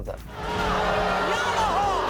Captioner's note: audience booing